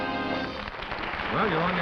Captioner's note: applause